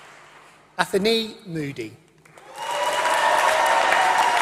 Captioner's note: applause